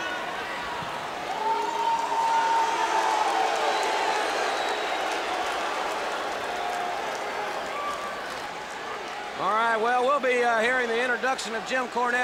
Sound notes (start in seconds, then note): 1.8 crowd cheering